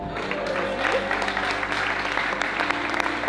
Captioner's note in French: applaudissement